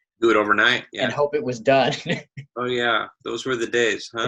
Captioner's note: laughs